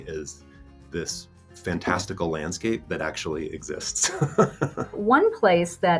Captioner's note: laughs